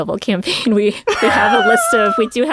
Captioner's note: laughter